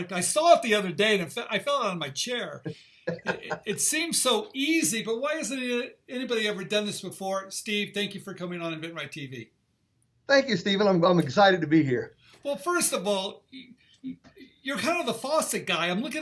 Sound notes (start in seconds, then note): 3.0 chuckles